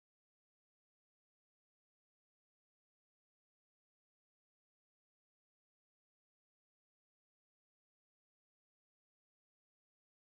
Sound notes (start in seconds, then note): none